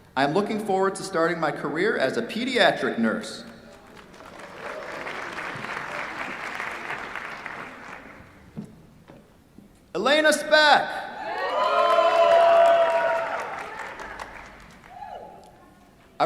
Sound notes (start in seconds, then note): 3.6 applause; 11.2 cheers, applause